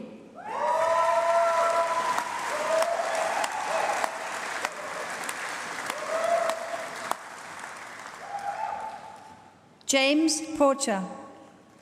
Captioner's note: applause